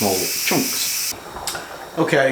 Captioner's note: bubbling